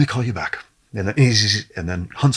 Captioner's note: mimicking phone buzzing